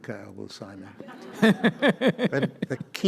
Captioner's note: audience laughs